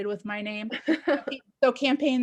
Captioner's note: laughs